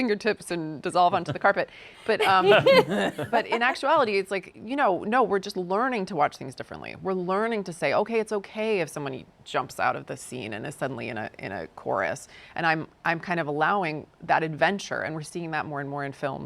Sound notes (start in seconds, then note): 2.0 laughing